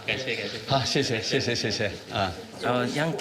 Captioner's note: both speaking foreign language